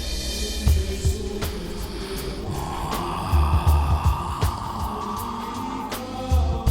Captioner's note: sniffs and Exhales